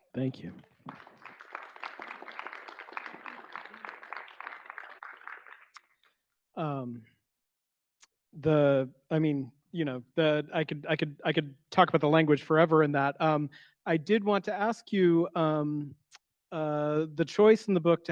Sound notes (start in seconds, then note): 0.8 audience applauds